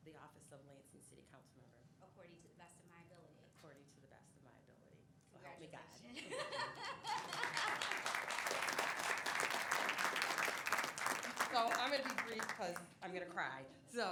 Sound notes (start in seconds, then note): 6.2 laughs; 7.0 applause